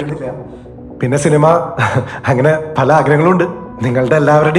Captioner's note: chuckles